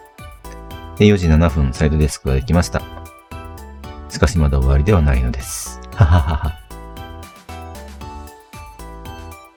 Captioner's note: laughs